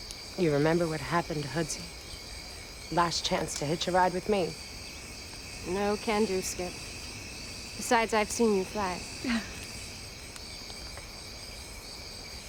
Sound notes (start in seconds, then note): 9.2 Betsy laughs